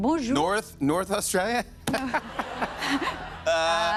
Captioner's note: laughter